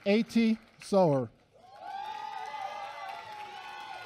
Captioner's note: applause